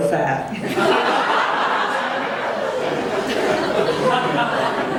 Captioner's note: audience laughing